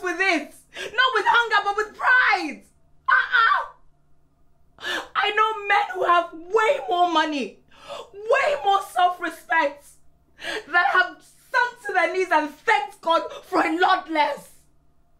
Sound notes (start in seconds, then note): none